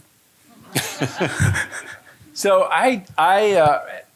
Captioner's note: audience laughing